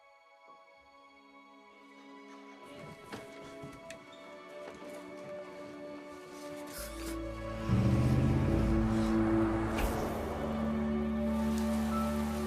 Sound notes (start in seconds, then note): 0.2 calm music; 7.2 engine revving